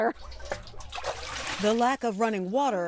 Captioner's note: water sloshes